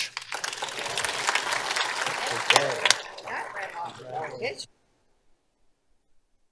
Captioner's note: applause